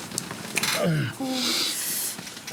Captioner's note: John groans